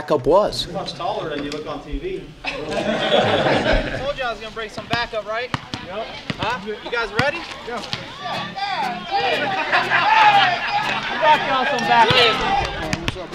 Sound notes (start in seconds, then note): 2.2 all laugh; 8.8 teenagers cheering